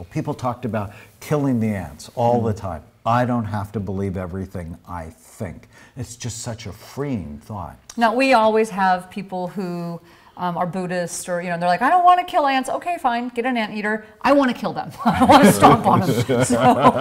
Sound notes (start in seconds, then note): 15.0 host laughs